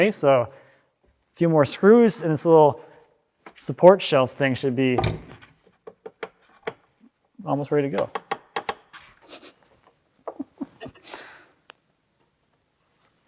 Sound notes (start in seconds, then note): 8.0 wood ratcheting; 10.2 chuckles